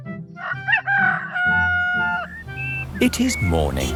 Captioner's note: rooster crowing